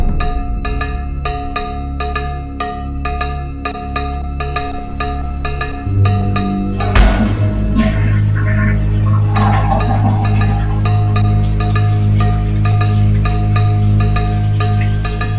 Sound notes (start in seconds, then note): 7.1 toilet flushing; 12.5 intense music